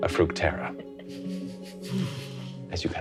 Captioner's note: chuckling